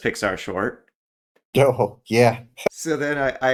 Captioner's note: laugh